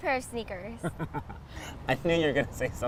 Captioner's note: laughter